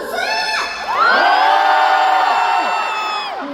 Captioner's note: ONCE: Cheers